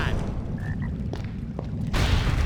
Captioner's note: ribbit